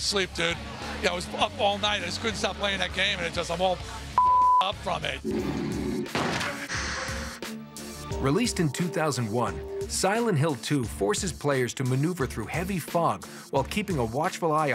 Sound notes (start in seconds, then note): 5.2 growling